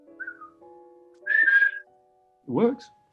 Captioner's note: whistles